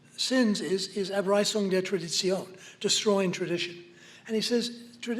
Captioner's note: non-english